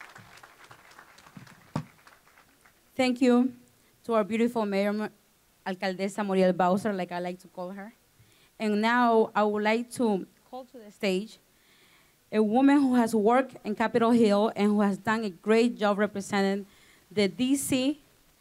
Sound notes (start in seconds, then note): 0.0 applause; 5.5 speaking spanish